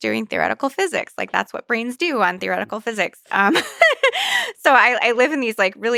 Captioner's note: laughs